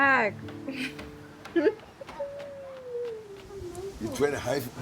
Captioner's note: chuckles